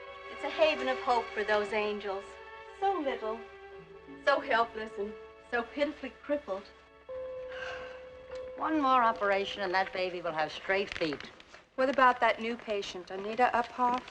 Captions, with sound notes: It's a haven of hope for those angels... so little, so helpless and so pitifully crippled. - [ Bell Chiming ] - [ Woman Sighs ] One more operation, and that baby will have straight feet. What about that new patient, Anita Uphoff?